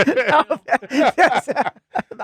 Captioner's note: laughing